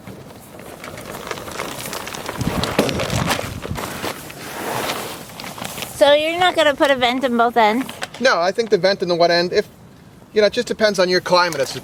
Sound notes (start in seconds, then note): 0.0 plastic crackling